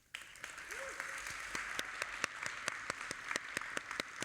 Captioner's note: audience applauding